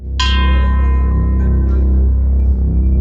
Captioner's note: bell ringing; dramatic music